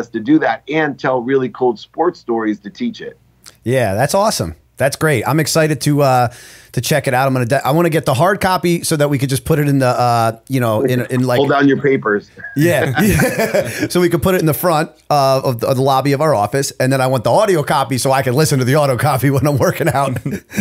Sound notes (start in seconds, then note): 12.4 chuckle; 12.4 laughter; 20.2 chuckle